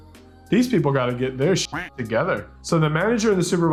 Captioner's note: duck quacking